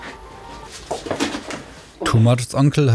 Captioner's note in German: Klappern